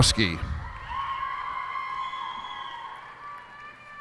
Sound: cheers and applause

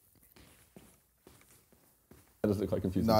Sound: footsteps pattering

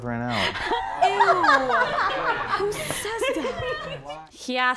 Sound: laughing

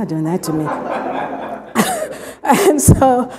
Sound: laughter

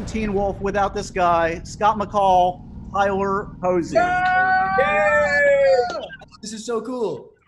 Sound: cheering

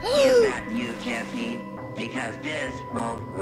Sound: gasps

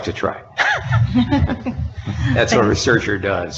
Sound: laughing

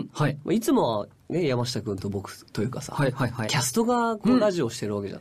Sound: none

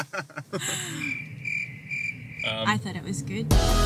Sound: laughing; crickets chirping

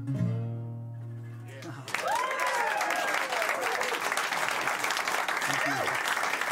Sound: cheers and applause

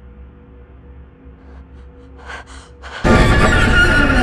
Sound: scared breathing; suspenseful music

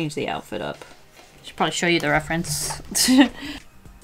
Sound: chuckles

